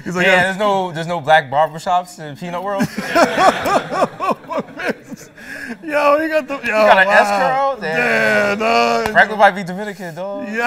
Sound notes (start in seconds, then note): 2.8 laughter